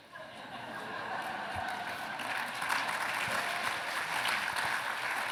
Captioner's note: laughter